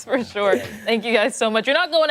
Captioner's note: laughter